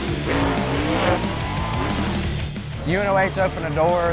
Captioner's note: engine revving